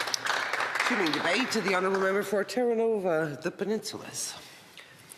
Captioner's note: some Applause